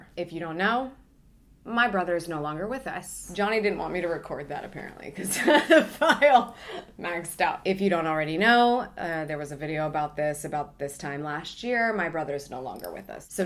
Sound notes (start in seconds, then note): 5.3 laughs